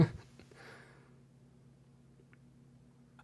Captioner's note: laughing